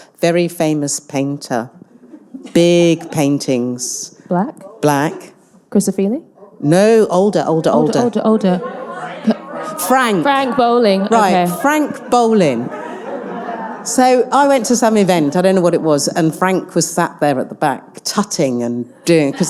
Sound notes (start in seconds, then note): 8.9 audience responding